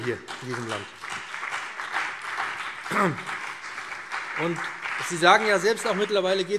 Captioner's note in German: Beifall BÜNDNIS 90/DIE GRÜNEN und CDU